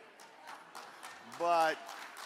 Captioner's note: audience applaud